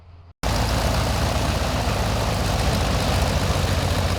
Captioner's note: whirring